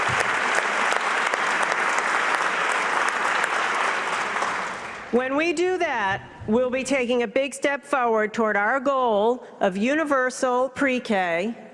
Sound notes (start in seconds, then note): 3.7 applause